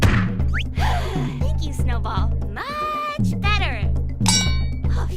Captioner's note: sigh